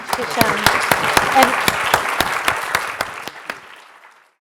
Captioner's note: applause